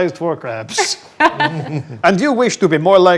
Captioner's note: group laughs